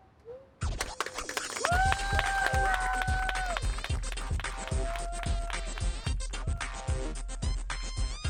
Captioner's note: crowd applause